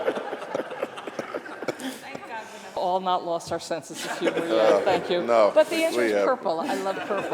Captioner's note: laughter